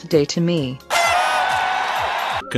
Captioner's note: cheers